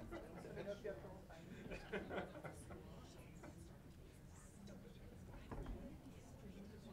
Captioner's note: people chattering indistinctly